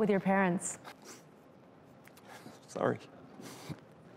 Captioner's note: sniffles